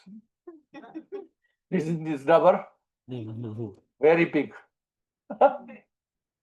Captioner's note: laughs